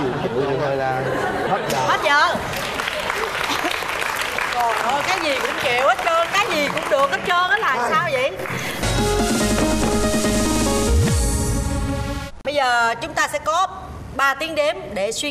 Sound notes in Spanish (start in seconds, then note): 2.4 Aplaudir